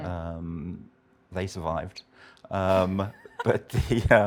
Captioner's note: laughs